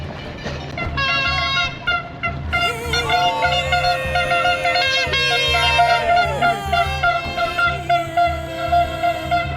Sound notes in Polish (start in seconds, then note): 0.9 Aplauz